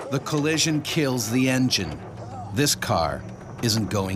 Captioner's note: voiceover